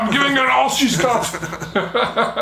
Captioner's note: chuckling